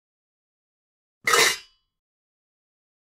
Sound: sound of pots clanking

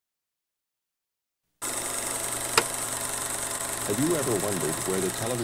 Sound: projector clicking

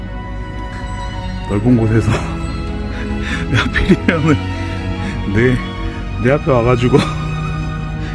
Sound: laughs

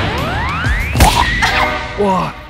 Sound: slap

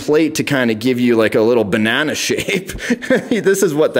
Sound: laughs

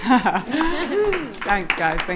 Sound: audience applauding

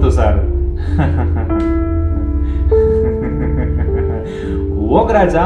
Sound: laughs

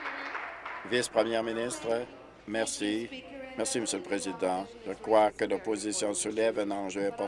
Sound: applause

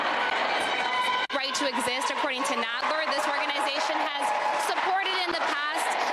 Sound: loud crowd noise

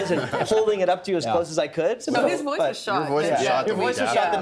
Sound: laughing

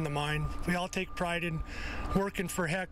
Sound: nats of ambulance

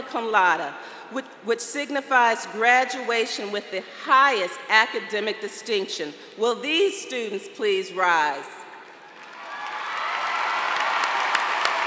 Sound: applause

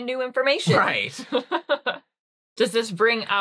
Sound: laughing

